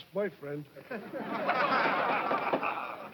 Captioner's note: laughing